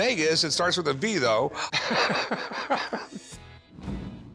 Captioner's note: laughs